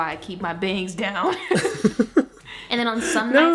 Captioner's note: laughs